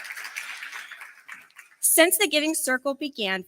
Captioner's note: applause